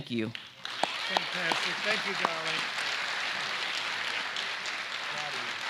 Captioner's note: applause